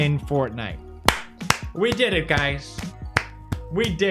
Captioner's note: claps